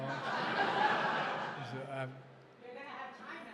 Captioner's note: laughter